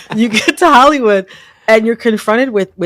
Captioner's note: laughter